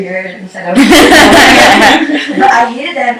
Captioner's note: laughter